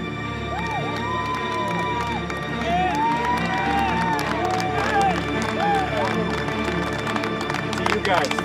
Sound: clapping and cheering

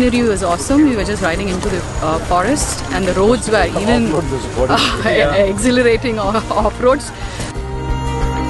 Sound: laughs

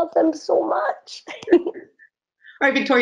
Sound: laughs

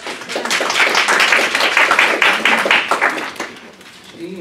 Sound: applause

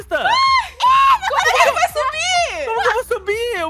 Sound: screams

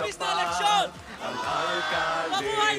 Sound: crowd

